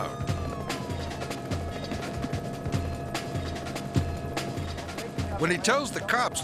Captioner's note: siren continues blaring; intense music